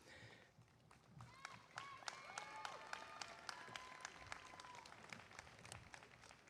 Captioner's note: applause